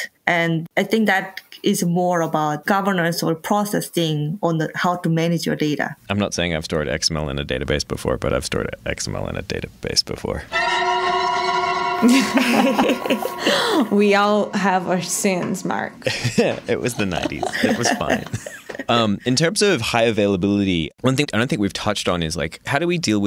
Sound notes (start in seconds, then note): 10.4 creepy music; 12.1 laughing; 16.0 laughs